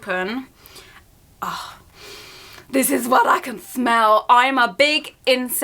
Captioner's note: inhales